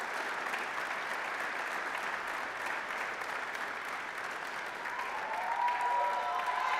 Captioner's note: applause, cheering; applause; applause, cheering